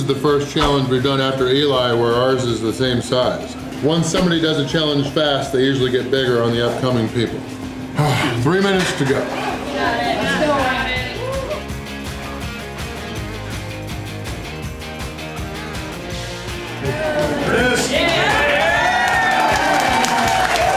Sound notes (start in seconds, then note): 9.9 crowd